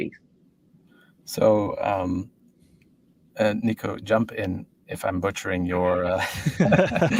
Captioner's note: laughs